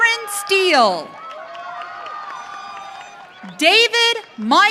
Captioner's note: audience cheering